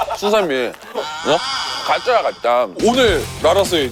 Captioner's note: gasping at This Unexpected Turn of Events